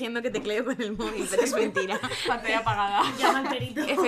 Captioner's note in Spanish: risas